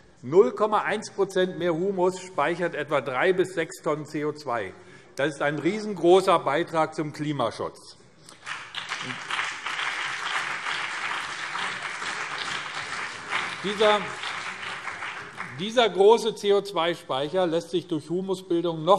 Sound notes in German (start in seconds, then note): 8.3 Beifall BÜNDNIS 90/DIE GRÜNEN und CDU